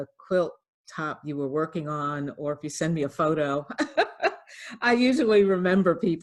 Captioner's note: laughs